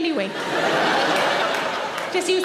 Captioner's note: audience laughing